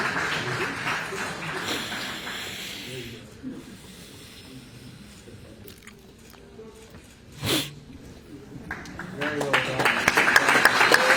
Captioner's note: applause